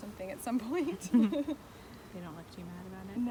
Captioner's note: laughter